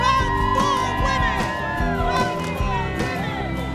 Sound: crowd cheering

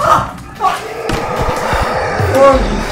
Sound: demon screams

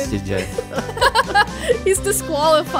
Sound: laughing amusingly

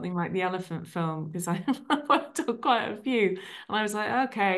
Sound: laughs

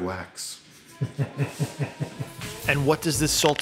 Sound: chuckling

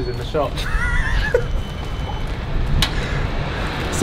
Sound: laughs

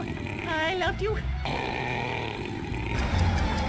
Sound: growling

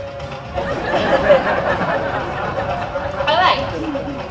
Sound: crowd laughs

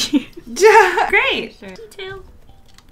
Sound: laughs

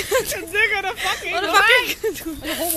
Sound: rambles

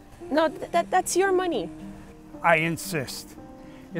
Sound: none

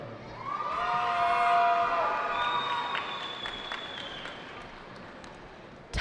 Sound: cheering

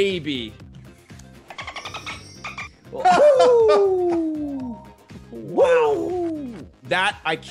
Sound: laugh

